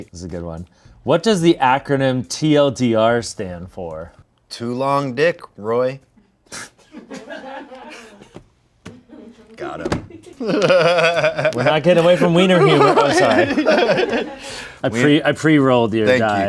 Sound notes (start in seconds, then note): 7.5 crew laughs; 7.6 chuckles; 10.1 laughs